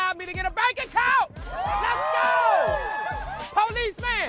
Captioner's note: cheering, applause